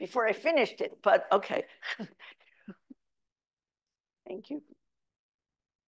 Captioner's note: chuckles